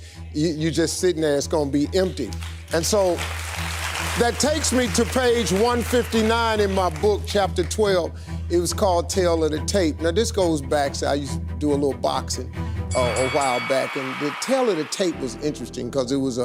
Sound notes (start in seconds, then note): 12.9 bell ringing